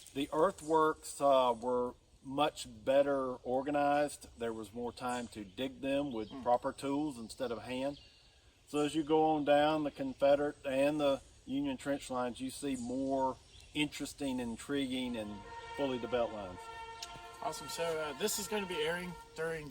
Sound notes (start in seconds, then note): 14.2 horn in distance